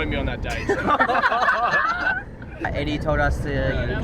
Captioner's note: cheerleaders laughing